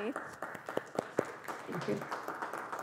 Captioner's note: applause